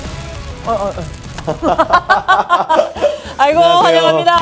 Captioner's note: laughs